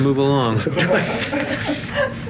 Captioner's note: laughter